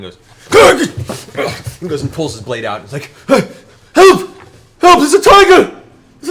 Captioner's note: startled sound